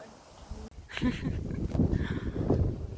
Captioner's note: chuckles